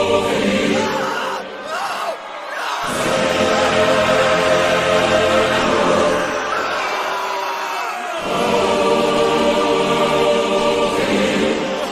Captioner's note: screams in background